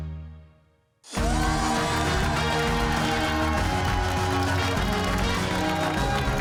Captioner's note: cheers and applause